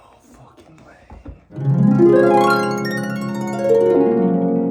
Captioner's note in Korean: 이상한 효과음 #2